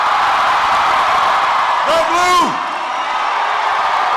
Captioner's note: applause